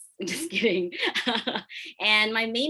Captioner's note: laughs